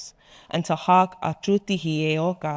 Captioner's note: speaking in foreign language